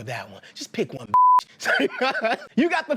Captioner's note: laughing